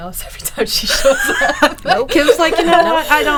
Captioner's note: laughing